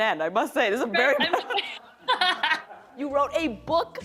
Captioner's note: laughter